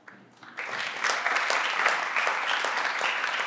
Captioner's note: everyone claps